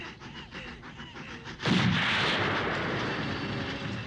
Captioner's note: gun fires